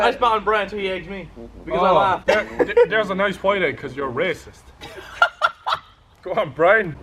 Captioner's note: laugh